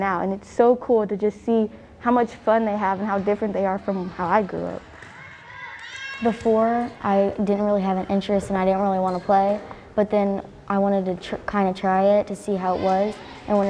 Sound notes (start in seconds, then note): 5.1 kids shouting